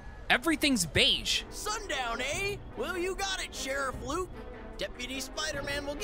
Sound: awful Southern accent

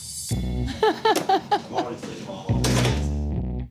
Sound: laughing

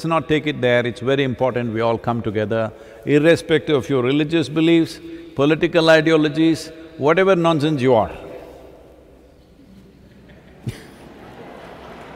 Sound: laughter/Applause

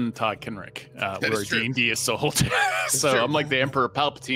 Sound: laughs

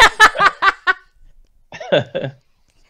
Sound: laughs

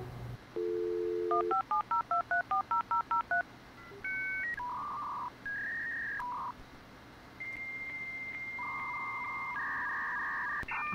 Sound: unmistakable sound of 56k internet login

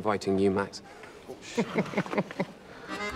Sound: Larry chuckling

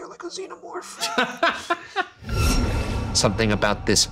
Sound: laughing

